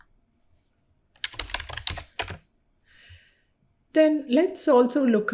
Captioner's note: keyboard keys clicking